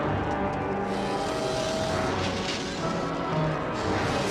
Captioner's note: robotic noises